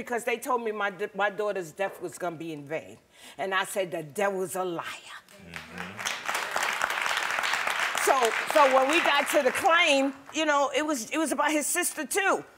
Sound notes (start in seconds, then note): 5.4 crowd clapping